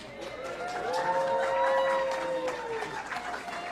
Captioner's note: audience clapping